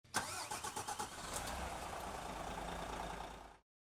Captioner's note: car engine igniting